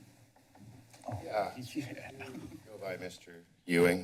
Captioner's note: background chatter